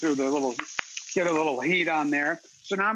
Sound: pan sizzling

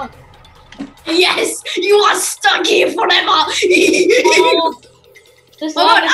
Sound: laughs evilly

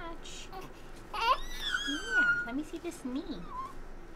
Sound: baby squealing

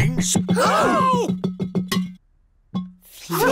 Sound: all gasp

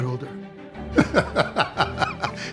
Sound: laughter

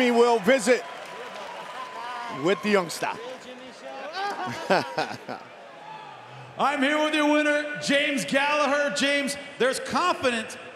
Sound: cheers and applause

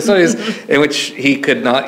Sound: chuckles

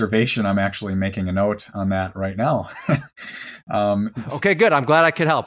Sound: laughs

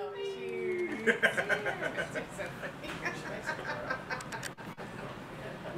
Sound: laughter in the background

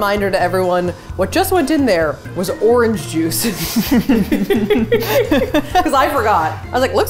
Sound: laughing

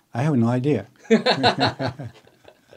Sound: laughs

